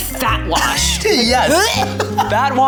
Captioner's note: gags; laughs